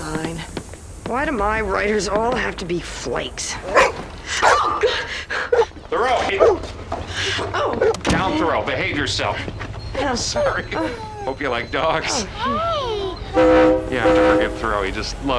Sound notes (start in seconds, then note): 3.6 barking